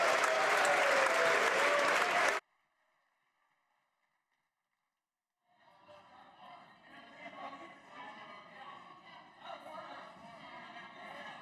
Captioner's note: applause